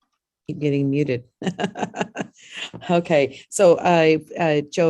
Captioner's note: laughs